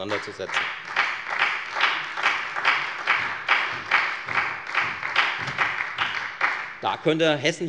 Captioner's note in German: Beifall bei der FDP und der SPD